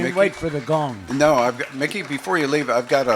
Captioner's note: applause